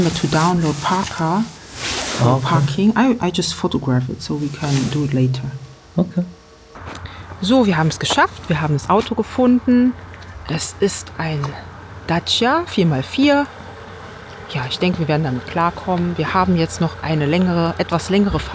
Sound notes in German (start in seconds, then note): none